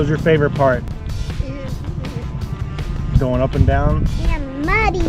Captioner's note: driving sounds